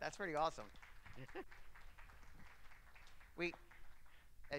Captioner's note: clapping